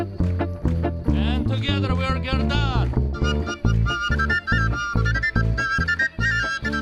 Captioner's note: speaking foreign language